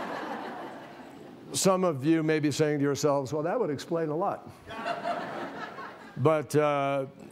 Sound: laughter

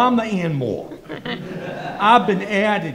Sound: everyone laughs

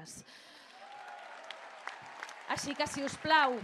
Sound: applause

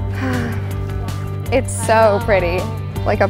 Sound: sighs

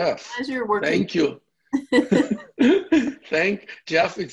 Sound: laughs

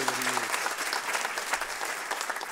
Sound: applause

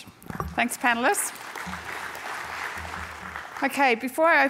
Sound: applause

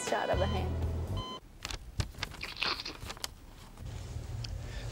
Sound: slurping

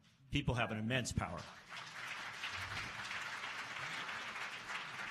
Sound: applause

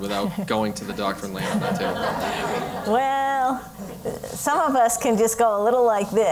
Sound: laugh

